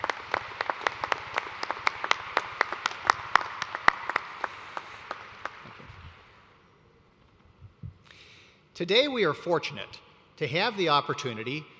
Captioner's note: applause